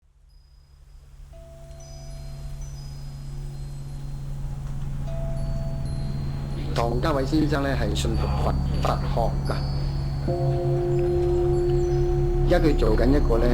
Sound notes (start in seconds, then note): 0.0 eerie music; 8.5 speaking chinese